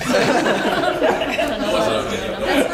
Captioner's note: laugh